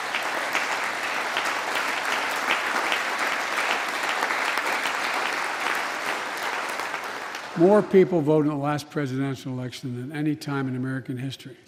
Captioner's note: applause